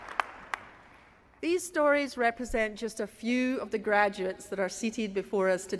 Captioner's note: applause